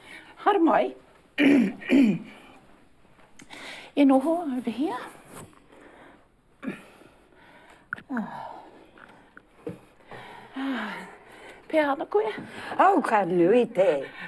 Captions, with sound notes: Haere mai. (CLEARS THROAT) E noho — over here. (SIGHS) Ah. Pehea ana koe? Oh, ka nui te.